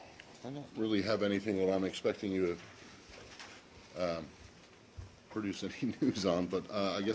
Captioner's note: laughter